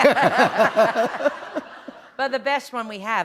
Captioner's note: laughter